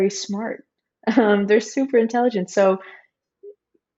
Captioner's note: chuckles